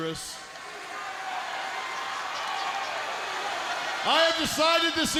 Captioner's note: audience shouting